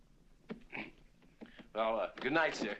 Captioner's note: clears throat